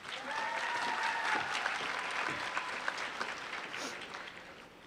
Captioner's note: applause